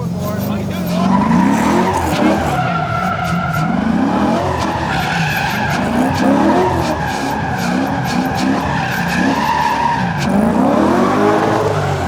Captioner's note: engine revving; tires screeching